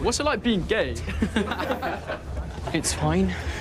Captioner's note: boys laughing